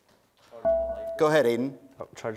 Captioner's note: dinging